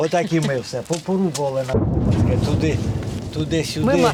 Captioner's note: shell explosion nearby